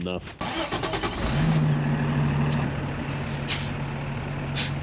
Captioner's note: truck ignites